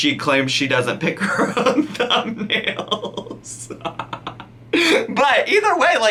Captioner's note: laughs